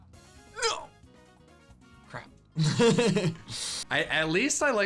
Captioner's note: laughs